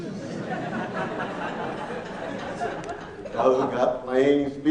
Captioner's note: laughing